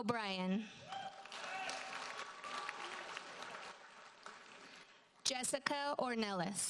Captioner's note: audience cheers and applauds